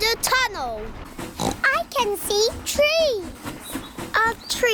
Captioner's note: oinks